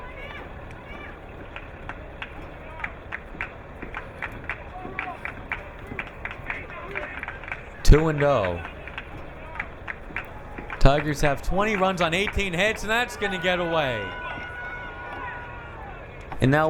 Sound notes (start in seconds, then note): 2.9 crowd clapping